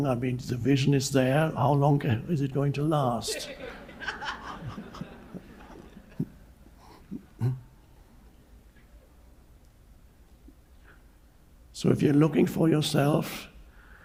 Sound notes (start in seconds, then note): 3.2 audience laughs; 3.2 Eckhart giggles